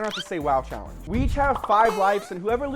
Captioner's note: electronic chirping